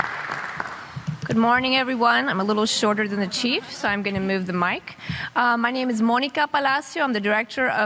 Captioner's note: applause